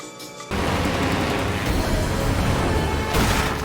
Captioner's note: plane engine; crash